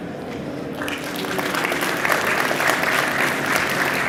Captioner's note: audience applause